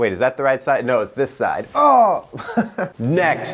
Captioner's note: laughs